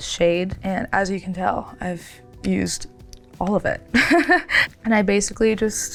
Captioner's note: chuckles